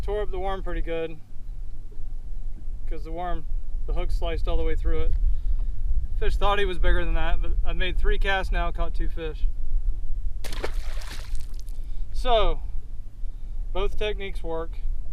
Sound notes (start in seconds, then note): 10.4 water splashing